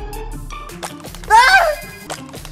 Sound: argh

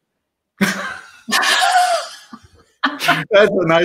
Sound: laughter

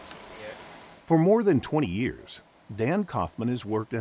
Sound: voiceover

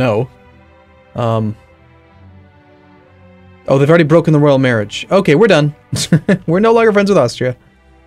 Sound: chuckle

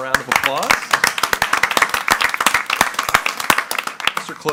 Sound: group claps

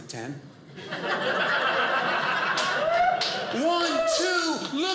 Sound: audience laughing

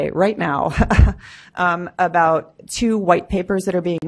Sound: laughs

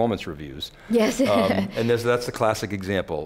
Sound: laughs

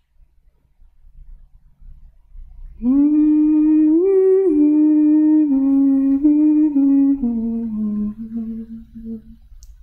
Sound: is humming

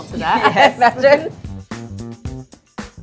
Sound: laughs

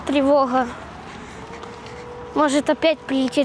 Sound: sound of air alarm

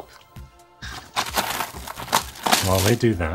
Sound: paper tearing

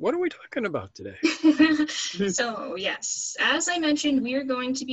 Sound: laughs

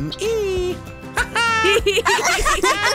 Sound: laughs

